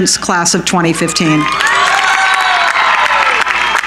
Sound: cheering

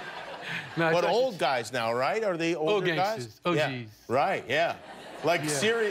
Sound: laughter

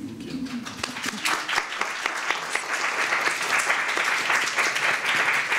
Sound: applause

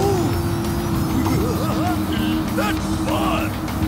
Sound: giggling

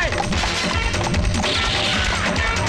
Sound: gunshot

